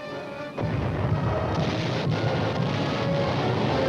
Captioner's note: cannon fire